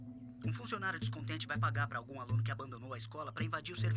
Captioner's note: voiceover